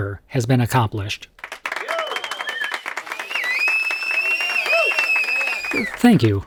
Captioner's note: applause